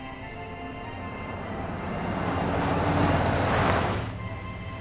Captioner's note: car approaching